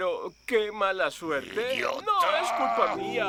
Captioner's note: growling